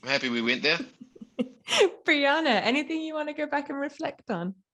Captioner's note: laughs